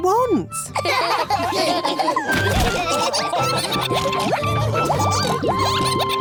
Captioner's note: all laughing